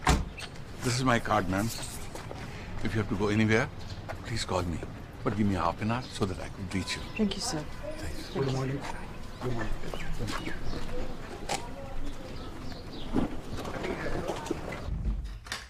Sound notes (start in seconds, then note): 9.9 birds chirping